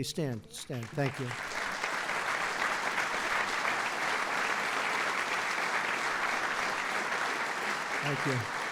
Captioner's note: applause